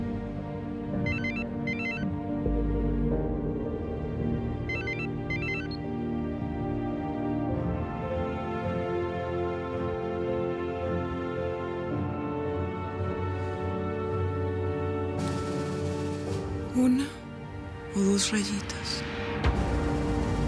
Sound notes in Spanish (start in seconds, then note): 1.2 Suena el celular